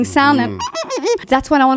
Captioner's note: imitating police siren